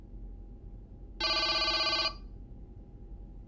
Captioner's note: none